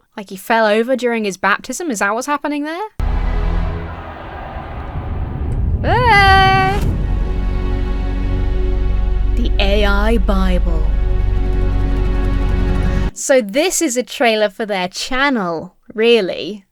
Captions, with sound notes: Like he fell over during his baptism? Is that what's happening there? (crowd cheering) Hey! The AI Bible. So this is a trailer for their channel, really.